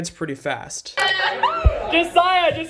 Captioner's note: laughs